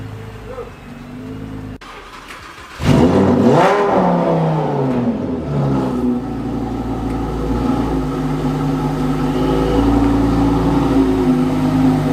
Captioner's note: engine sound